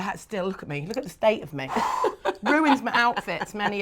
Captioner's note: laughs